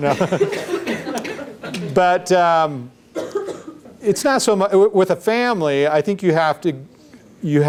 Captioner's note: laughs